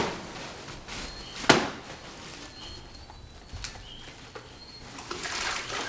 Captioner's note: banging; frogs chirping